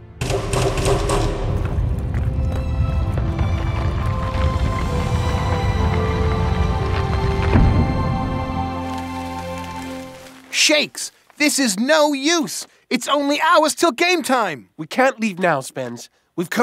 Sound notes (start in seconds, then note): 2.1 door rumbles; 5.1 heavenly music